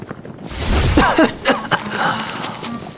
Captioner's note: cough cough cough